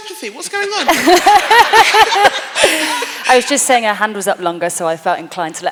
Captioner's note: laughter